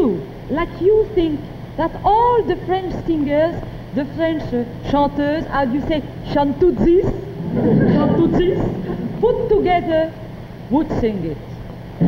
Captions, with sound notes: like you think that all the French singers, the French chanteurs, how do you say, the French "chanteuses", (audience laughing) "chauntootsies" put together would sing it.